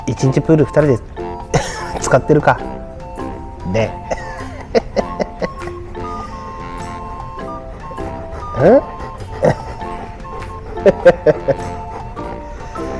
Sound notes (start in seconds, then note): 1.4 laughs